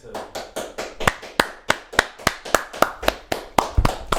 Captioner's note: both clapping